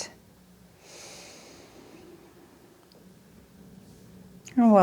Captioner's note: inhales deeply